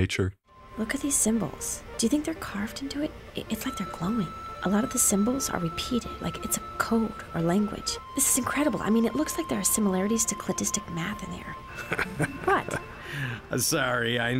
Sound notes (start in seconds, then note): 11.7 chuckles